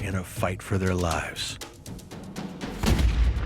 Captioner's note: gun fires